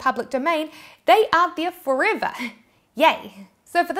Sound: giggles

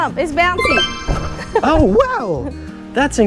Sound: laughs; graphic tinkling; feet thumps

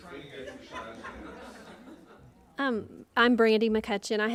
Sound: laughing

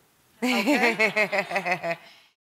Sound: laughter

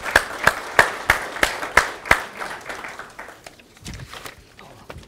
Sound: audience applause

